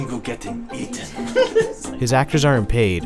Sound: laughs

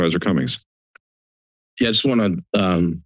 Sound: silence

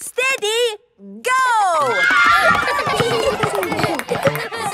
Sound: laughter; kids screaming

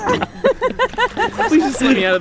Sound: laughing

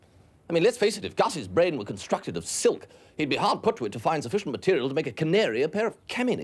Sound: none

